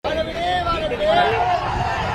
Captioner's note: chanting